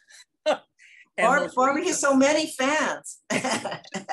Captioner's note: laughs